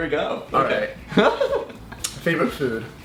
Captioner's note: giggling